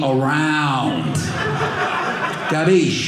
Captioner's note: audience laughing